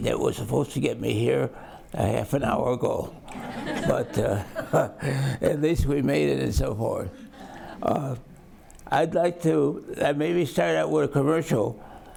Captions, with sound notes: that was supposed to get me here a half an hour ago. (audience laughs) But uh (chuckles) at least me made it so far. I'd like to maybe start out with a commercial.